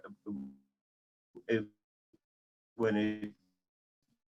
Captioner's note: audio fading away